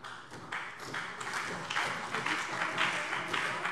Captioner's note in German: Beifall CDU und BÜNDNIS 90/DIE GRÜNEN